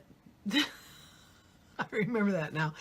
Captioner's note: laughs